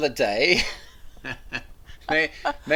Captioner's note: both laugh